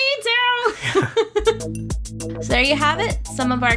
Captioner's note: laughs